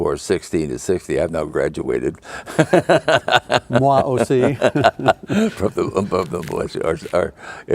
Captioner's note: laughing